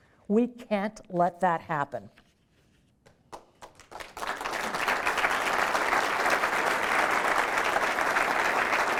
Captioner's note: applause